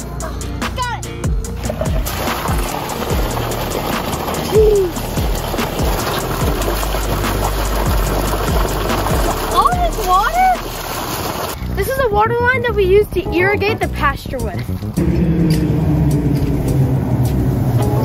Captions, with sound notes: Got it! Jeez (upbeat music) (water spraying) All this water! This is the water line that we use to irrigate the pasture with. (upbeat music)